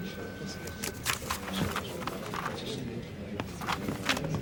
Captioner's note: overlapping chatter